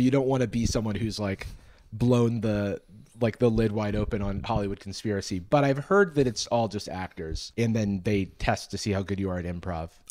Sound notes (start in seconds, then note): none